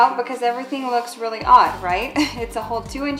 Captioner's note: laughs